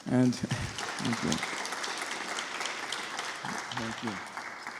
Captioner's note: audience applauds